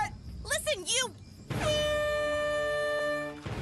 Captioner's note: air horn sounding